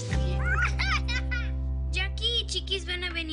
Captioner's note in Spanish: Risas